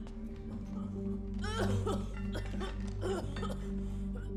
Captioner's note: coughing